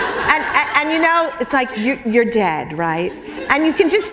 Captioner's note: laughter